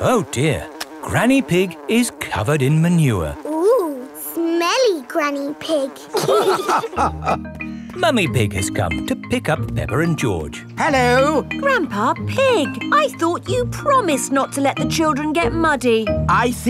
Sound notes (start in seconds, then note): 6.1 all laughing